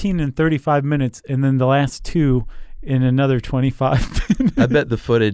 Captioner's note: laughs